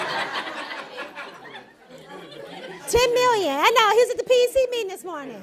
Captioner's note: laughter